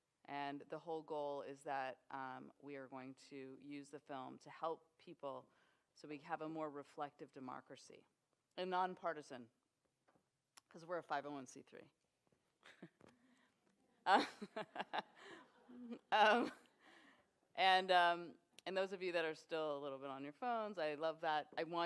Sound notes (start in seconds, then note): 14.1 laughter